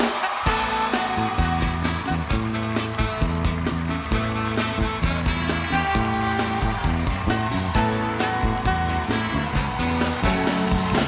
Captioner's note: applause